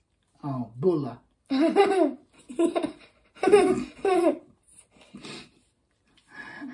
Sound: both laugh

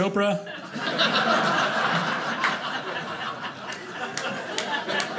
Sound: audience laughing

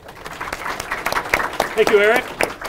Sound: audience applauding

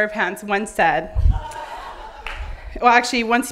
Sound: laughing

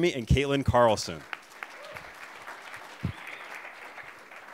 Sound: applause

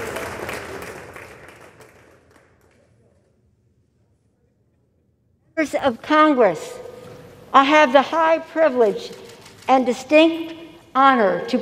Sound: applause

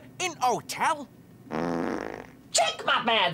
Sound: farts

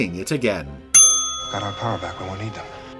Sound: bell dings

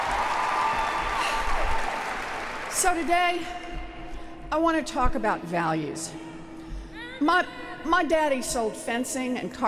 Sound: applause

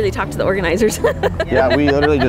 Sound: protester laughs softly

